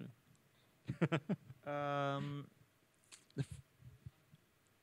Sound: chuckles

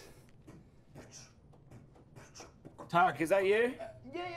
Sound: beatboxing and footsteps

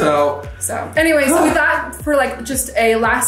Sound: sighs loudly

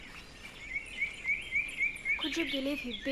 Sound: birds chirping

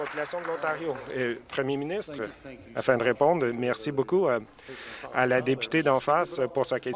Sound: applause

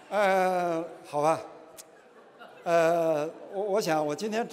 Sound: speaking chinese

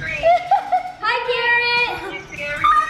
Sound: laughing

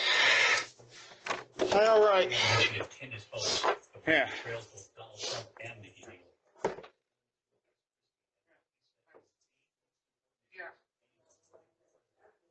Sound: TV plays in background

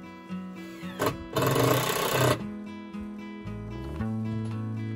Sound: electric drill sound

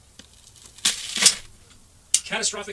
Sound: drywall tearing

